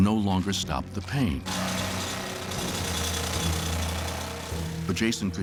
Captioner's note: drill grinding